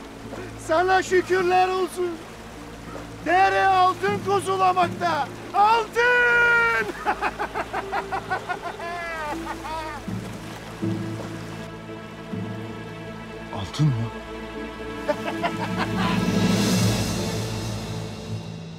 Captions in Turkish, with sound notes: ...sana şükürler olsun. Dere altın kuzulamakta. Altın! (Haçaturyan gülme sesi) Altın mı? (Gülme sesi)